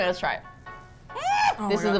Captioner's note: muffled shriek